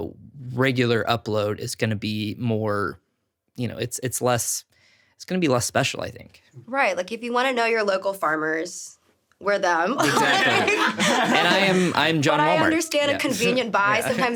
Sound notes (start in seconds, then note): 10.0 everyone laughing